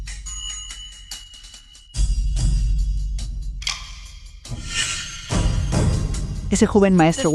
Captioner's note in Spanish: campana